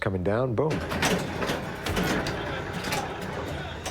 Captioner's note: noisy game sounds